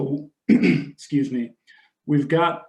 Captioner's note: clears throat